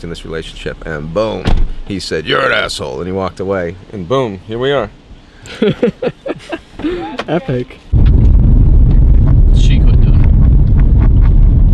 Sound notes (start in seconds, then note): 5.4 camera operator laughs; 7.9 wind whooshes